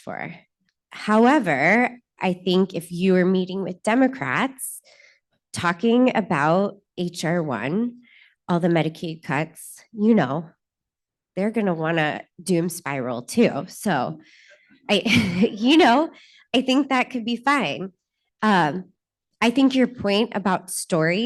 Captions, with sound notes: and say that they did what you asked for. However, I think if you are meeting with Democrats, talking about HR-1, all the Medicaid cuts, you know, they're going to want to doom-spiral too. (Laughter.) So, you know! I think that could be fine.